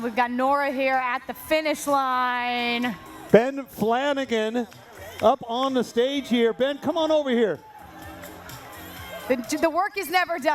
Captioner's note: cheering